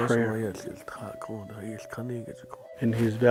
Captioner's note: man speaking Navajo